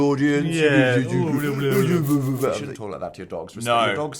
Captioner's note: does baby talk